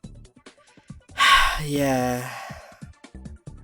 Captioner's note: exhale